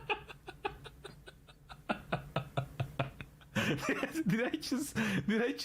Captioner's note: laughter